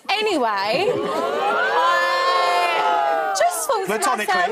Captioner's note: crowd oohs